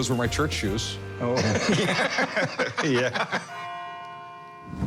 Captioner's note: laughter